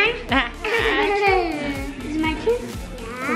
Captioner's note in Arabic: يضحك